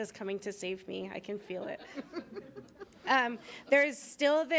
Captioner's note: attendees chuckling